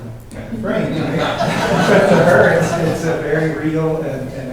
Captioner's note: laughter